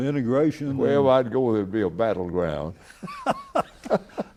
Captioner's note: laughter